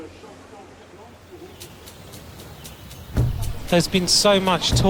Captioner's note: birds chirping